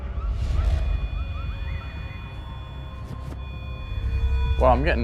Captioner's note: suspenseful music playing; machine buzzing